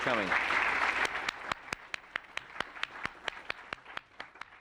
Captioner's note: applause